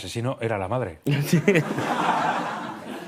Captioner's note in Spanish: Risas